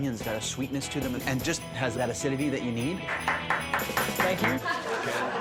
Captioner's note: claps